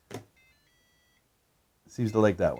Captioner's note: powerbolt beeping